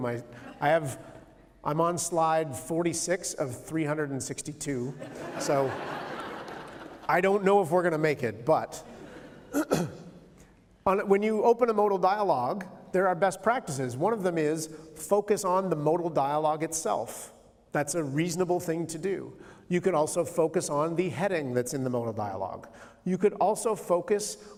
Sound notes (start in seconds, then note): 4.9 laughter; 9.5 clears throat